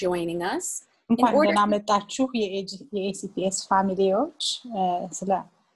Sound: speaks foreign language

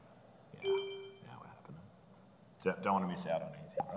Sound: digital chiming

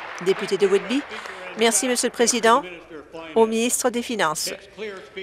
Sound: applause

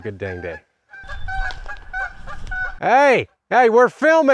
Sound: geese honking

